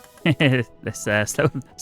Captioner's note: laughs